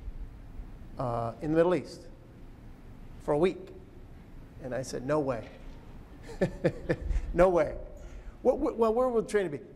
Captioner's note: laughs